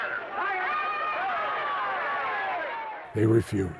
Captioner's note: crowd shouting